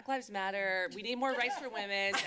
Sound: laughter

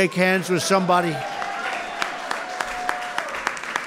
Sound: applause

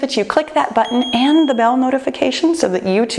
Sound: bell ringing

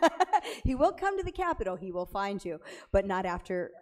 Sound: chuckles

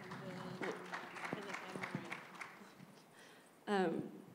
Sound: applause

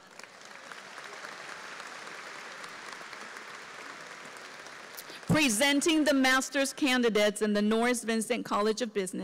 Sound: applause

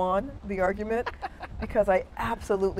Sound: laughing

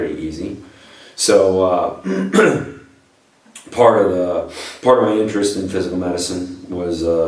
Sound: coughs

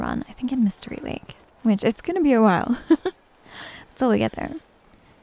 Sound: giggles

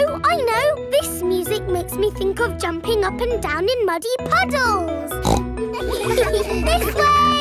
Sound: snorts; giggles

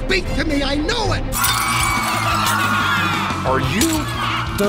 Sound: screaming and laughter

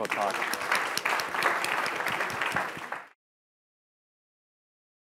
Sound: applause

